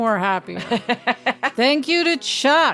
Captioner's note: laughing loudly